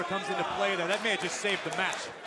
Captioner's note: crowd cheering